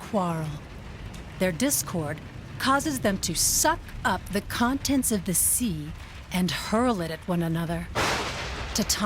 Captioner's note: sound of lightening strike